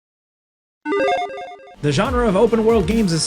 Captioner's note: electronic chiming